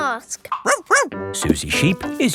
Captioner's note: barks